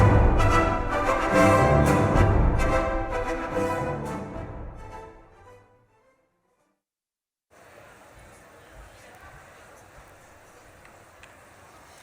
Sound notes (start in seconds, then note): 7.6 crowd murmurs